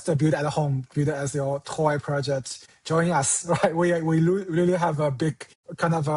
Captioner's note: chuckles